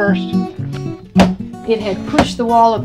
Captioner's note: hammer pounds